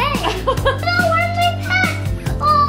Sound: laughing

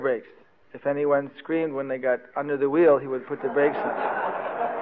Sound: devotees laughing

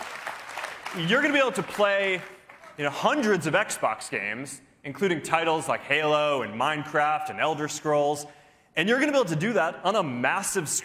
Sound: cheers and applause

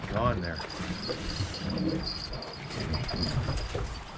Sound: jangling

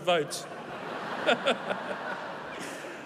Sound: laughter

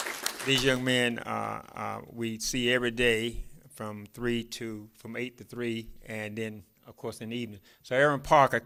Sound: applause

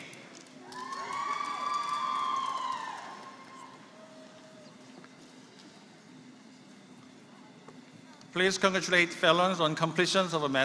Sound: applause

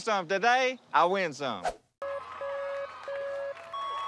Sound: lights beeping

